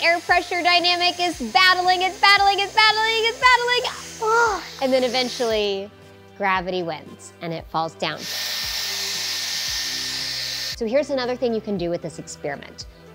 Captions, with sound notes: The air pressure dynamic is battling, it's battling, it's battling, it's battling. And then eventually gravity wins and it falls down. [machine whirring] So, here's another thing you can do with this experiment.